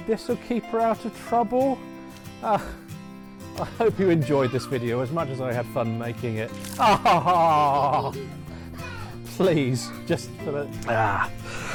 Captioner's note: crying